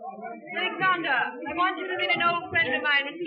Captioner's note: none